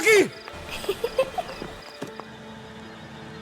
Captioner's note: ominous laugh